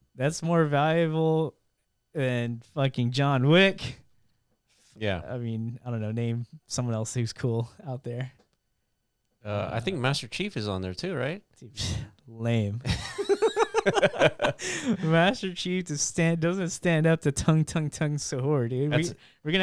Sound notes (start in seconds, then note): 13.0 laughing